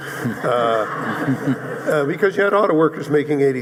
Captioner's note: audience laughing